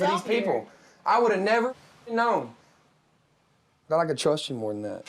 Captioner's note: muted